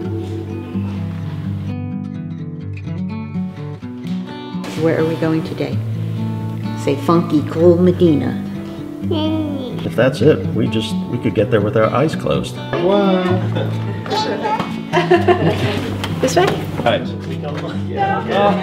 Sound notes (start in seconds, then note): 13.3 laughing